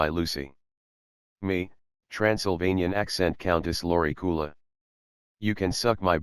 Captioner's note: Transylvanian accent